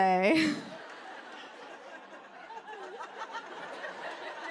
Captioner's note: laughter